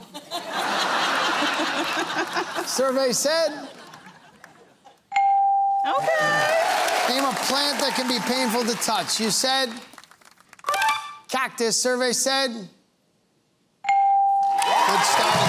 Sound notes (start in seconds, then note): 0.0 laughter; 5.9 cheering and applause; 14.4 cheering and applause